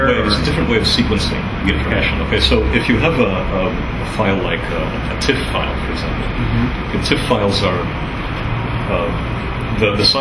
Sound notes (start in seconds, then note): none